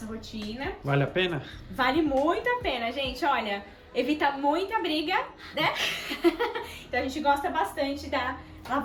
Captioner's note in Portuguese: risos